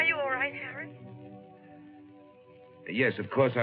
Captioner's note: on phone